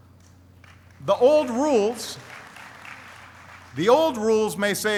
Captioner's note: applauding